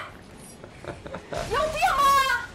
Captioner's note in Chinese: 哈哈哈